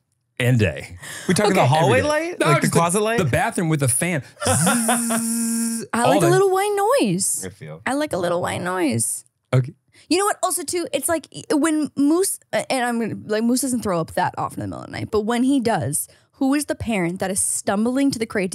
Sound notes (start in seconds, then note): 4.8 mimics fan buzz